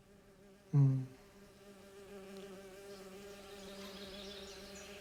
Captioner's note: bees buzzing